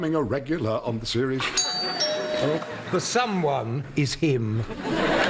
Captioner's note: doorbell